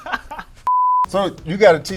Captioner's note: Petchpanomrung laughing; high pitch beep